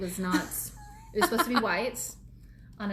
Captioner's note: laughs